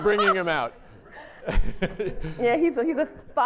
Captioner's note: laughter